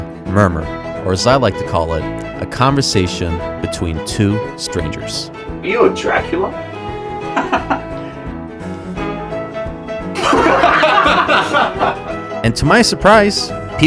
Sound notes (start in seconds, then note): 7.0 awkward Laughter; 10.1 genuine Laughter